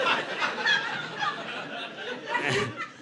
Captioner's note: audience laughing